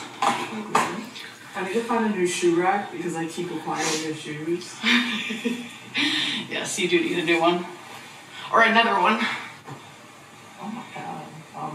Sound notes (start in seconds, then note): 4.8 laughs